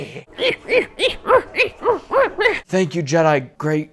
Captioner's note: More Yoda grunts, but faster